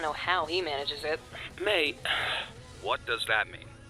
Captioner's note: sighs